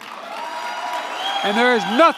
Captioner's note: applause